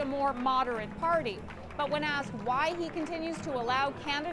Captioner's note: applause